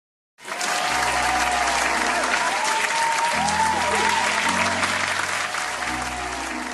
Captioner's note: applause